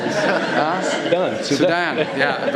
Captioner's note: laughter